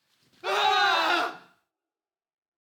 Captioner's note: both shouting